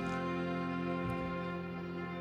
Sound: speaking inuktitut

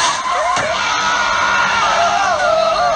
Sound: screaming

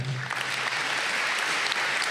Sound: applause

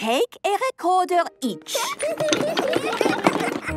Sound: laughter

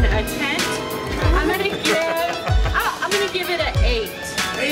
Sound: laughing

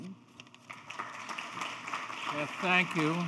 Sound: audience applauding

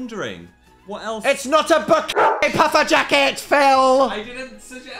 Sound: dog barks

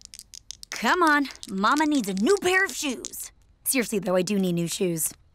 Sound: dice rattling

